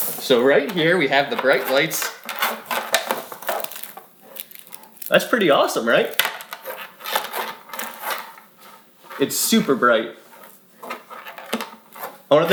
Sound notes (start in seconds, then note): 0.0 toy scraping; 2.7 toy scraping; 10.8 toy scraping